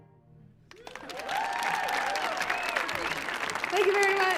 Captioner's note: audience applauding